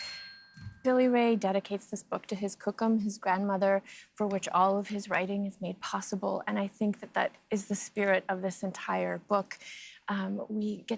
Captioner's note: bell rings